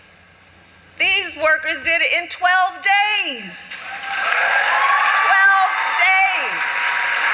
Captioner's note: applause